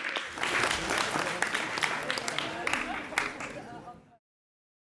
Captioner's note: crowd chatter